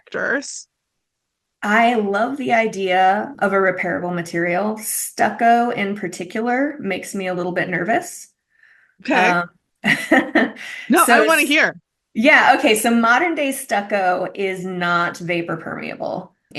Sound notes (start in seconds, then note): 9.1 laughs